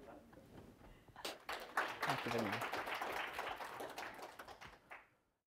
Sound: applause

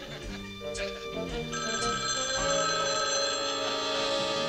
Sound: phone rings

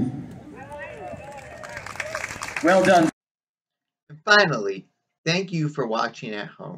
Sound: applaud from audience

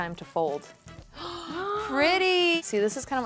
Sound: gasps

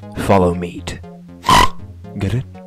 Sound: snort

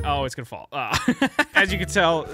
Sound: laughs

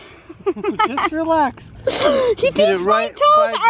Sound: laughing

